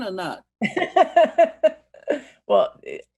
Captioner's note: laughing